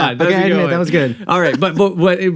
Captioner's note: chuckles